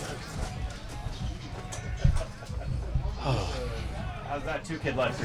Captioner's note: crowd chattering quietly